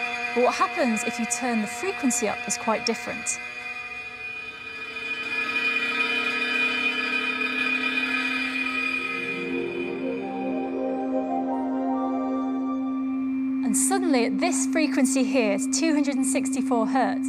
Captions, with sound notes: But what happens if you turn the frequency up is quite different. (BUZZING BECOMES HIGHER PITCHED AND MORE TINNY) And suddenly at this frequency here, it's 264 hertz,